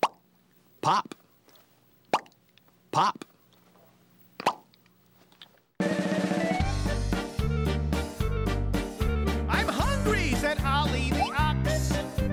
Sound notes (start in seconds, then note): 2.0 makes popping sound; 4.4 makes popping sound